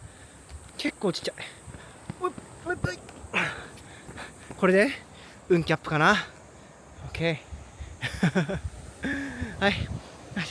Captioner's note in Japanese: 笑い